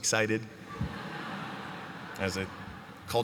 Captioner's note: laughter